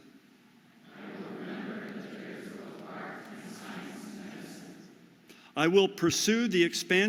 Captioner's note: audience repeats